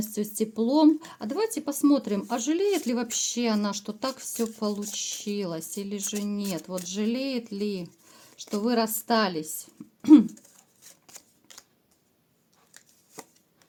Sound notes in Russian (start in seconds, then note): 10.0 откашливается